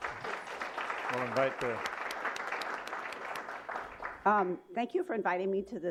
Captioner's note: applause